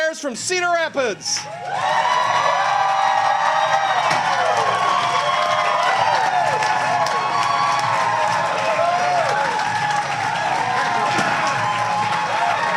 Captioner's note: cheering